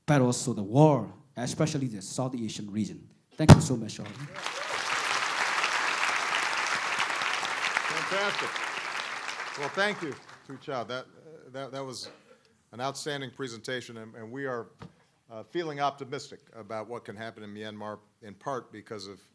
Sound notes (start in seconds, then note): 4.0 applause